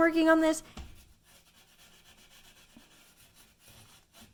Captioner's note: soft scratching